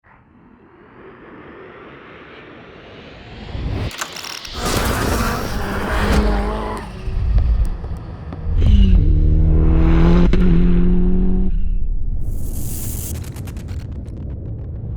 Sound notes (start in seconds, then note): 6.1 engine roaring